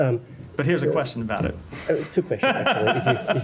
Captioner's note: laughter